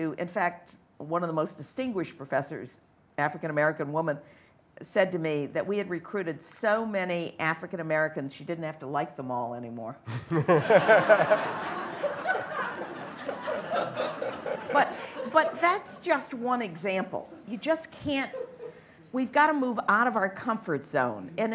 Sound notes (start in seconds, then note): 10.1 laughter